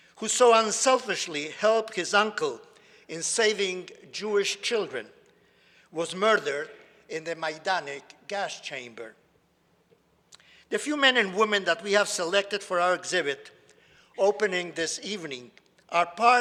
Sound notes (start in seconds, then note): none